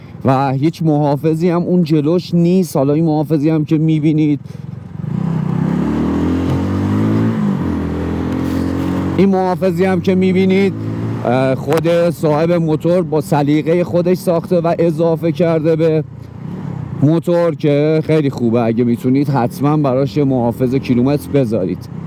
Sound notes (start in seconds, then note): 4.6 accelerating